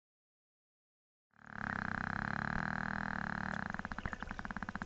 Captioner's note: whale buzzing